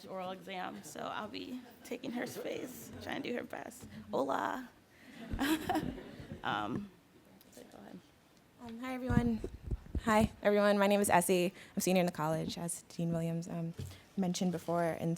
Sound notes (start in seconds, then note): 5.1 laughter